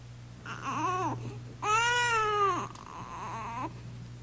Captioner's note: baby crying